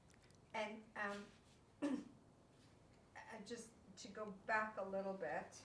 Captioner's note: clears throat